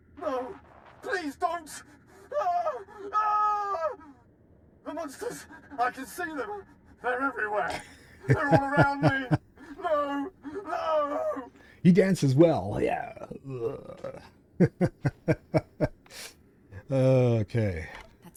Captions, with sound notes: No! Please don't! No! The monsters! I can see them! They're everywhere! They're all around me! No! No! He dances well, yeah. [Laughter] Okay.